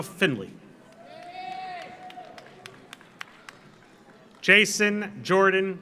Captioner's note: audience applauds; audience cheers